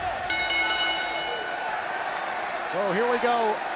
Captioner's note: bell ringing